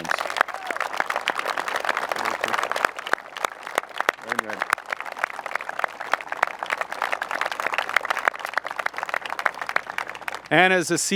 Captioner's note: applause